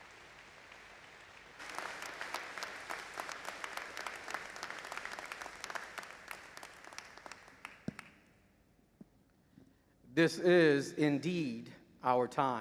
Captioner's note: applause